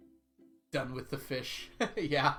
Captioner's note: laughs